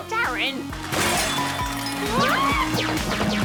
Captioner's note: clank!